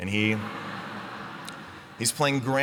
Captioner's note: laughter